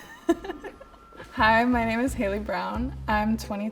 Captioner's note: laughs